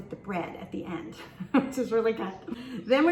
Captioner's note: laughs